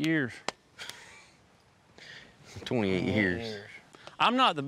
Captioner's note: chuckles